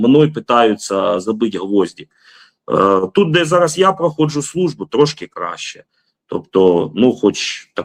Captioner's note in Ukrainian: сопіння